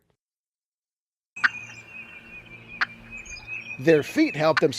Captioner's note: turkey sound